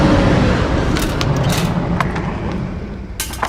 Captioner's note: gun cocking